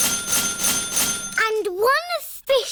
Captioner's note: dinging